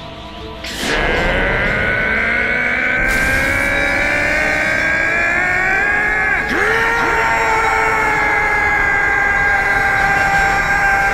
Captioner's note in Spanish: Gritos